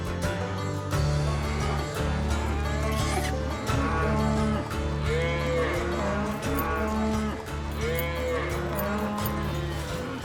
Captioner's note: cattle moo